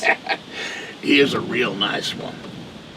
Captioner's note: Jake laughing